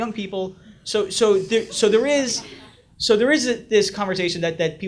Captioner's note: audience laughs